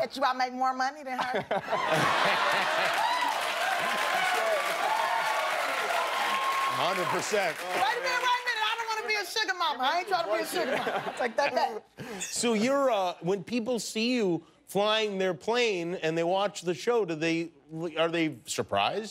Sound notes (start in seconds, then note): 4.5 cheers and applause